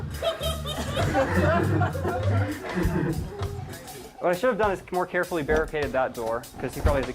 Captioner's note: laughs; audience laughter